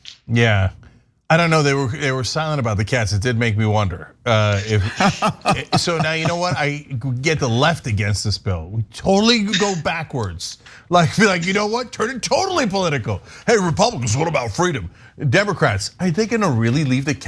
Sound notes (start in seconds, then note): 4.5 laugh